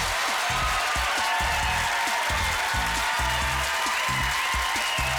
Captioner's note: applause